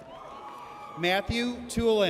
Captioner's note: audience cheers